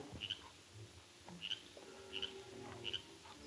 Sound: frog croaking; suspenseful music

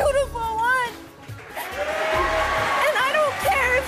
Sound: audience cheers

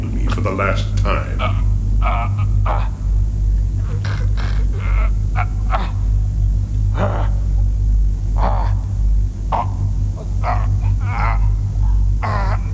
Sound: choking

